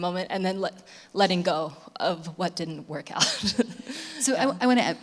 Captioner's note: laughs